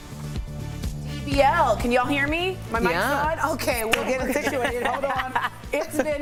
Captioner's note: laughter